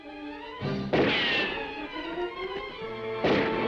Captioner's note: dramatic music; guns firing; dramatic music